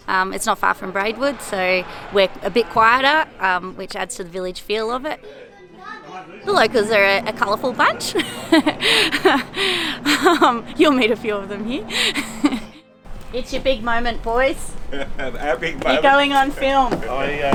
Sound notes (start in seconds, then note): 11.6 laughs